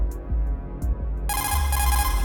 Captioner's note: CODEC call